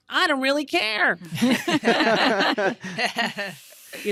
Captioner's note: all laughing